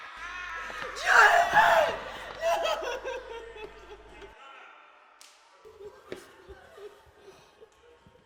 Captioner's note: Mina Sobbing